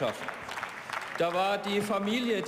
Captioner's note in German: Beifall